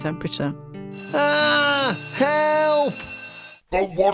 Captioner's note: fire alarm sound